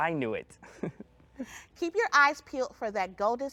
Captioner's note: chuckles